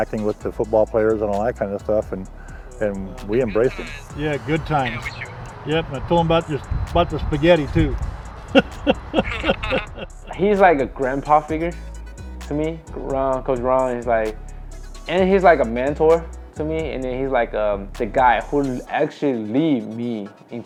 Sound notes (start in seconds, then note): 8.5 chuckles